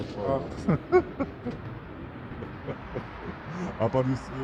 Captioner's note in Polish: śmiech